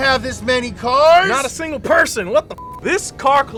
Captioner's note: beep